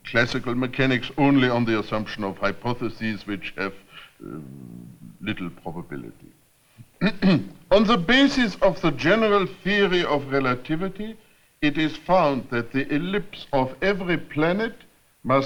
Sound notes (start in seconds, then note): 6.8 clears throat